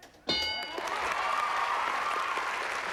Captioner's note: cheers and applause